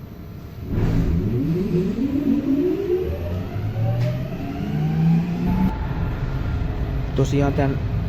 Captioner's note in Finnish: taajuusmuuttaja vonkuu kiihdyttäessä